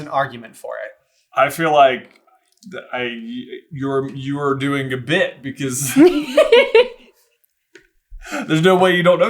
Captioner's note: laughter